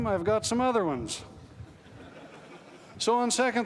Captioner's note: laughter